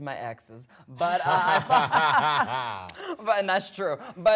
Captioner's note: both laughing